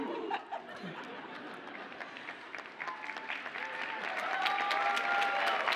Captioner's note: audience cheers and applauds